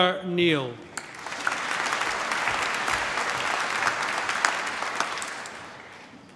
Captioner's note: applause